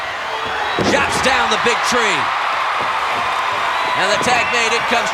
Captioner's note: audience cheering